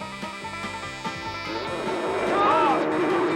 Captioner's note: dinosaur roars